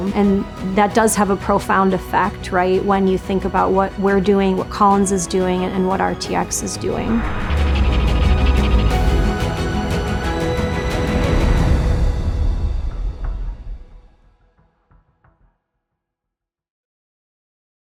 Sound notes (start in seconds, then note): 6.9 air whooshing; 7.5 epic music